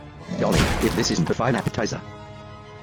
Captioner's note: crunch